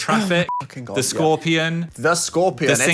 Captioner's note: beep